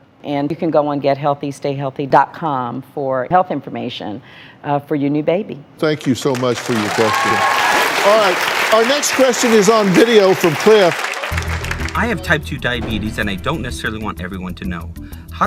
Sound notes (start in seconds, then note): 8.0 applause